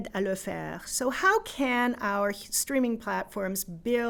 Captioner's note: in English